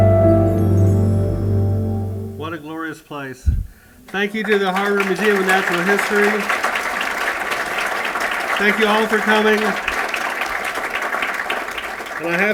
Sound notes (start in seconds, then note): 7.5 applause